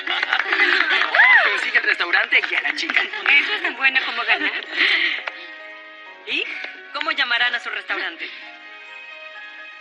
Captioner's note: laughs